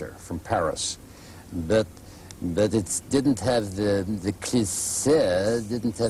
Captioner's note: imitating Inspector Clouseau